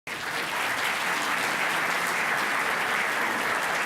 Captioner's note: audience applauding